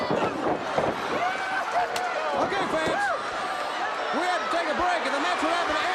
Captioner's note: crowd cheering